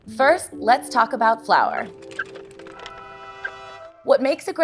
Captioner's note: horns; cart wheels